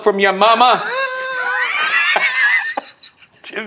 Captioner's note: laughing